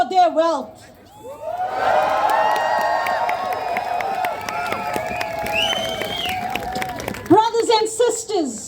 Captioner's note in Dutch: Gejuich